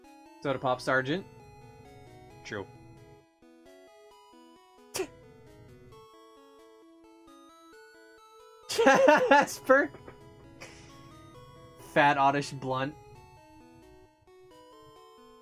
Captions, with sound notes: SodapopSgt. Chew. (laughs) Jasper! Fat Oddish blunt.